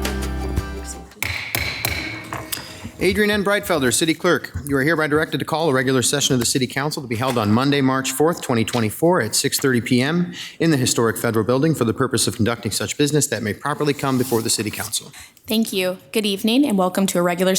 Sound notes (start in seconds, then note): 1.1 gavel pounding